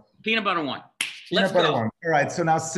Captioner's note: claps